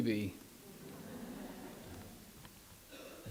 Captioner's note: audience laughs